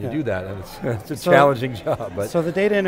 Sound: laughing

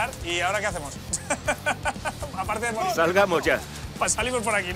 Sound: laughs

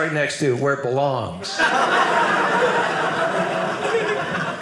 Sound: audience laughing

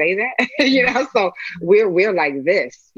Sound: laughs

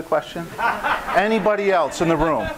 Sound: audience laughing

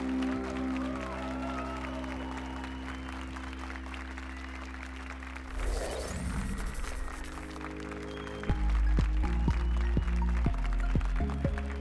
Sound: applause and cheers

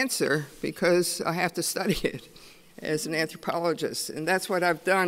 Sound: chuckles

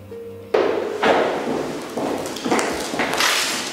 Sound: steps in the background

